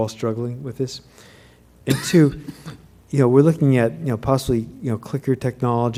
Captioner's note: cough